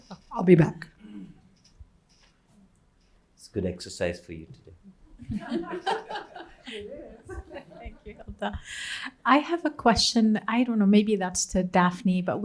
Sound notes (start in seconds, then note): 5.2 laughter